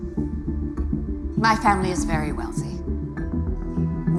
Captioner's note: none